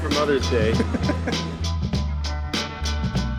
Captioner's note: chuckling